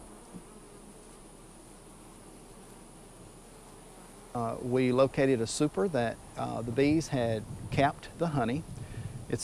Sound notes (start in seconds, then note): 0.9 buzzing